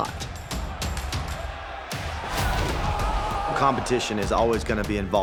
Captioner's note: applause